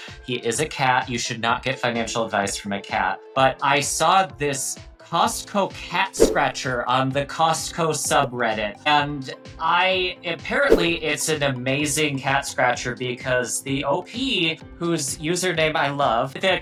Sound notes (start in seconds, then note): 6.1 graphic fwipping; 10.6 graphic fwipping